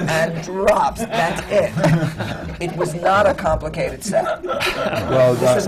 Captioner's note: laughter from the panel